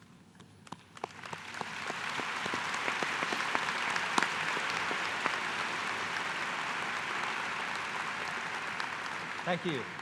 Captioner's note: applause